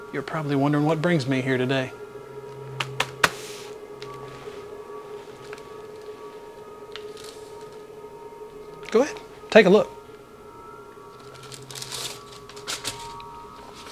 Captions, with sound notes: You're probably wondering what brings me here today. (hand tapping) (tense music) Go ahead, take a look.